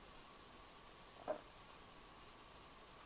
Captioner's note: knock